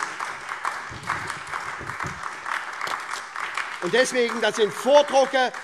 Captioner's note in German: Beifall SPD, Freie Demokraten und DIE LINKE